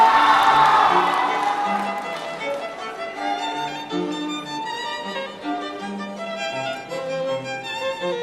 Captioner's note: applause; cheering